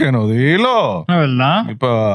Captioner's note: speaking In Foreign Language